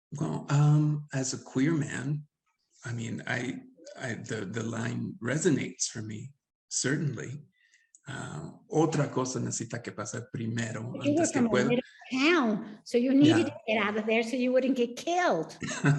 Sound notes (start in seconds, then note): 8.9 speaking Spanish; 15.6 laughs